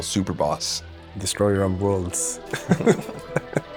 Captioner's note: laughs